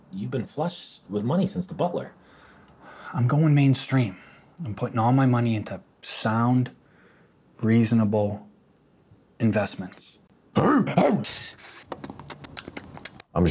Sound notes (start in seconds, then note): 10.5 dogs barking; 10.9 raccoons hissing; 11.7 chipmunks nibbling